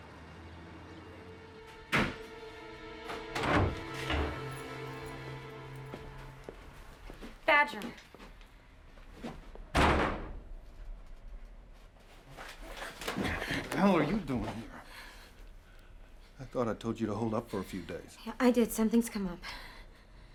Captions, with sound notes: (door thuds) - Badger! (door slams) - The hell are you doin' here? I thought I told you to hold up for a few days. - Yeah, I did. Something's come up.